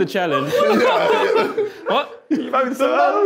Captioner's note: group laughing continues